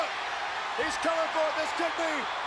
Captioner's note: crowd cheers